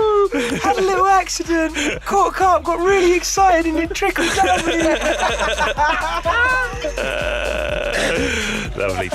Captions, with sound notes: (laughter) Oh had a little accident. Caught a carp, got really excited and it trickled down me. (laughing loudly)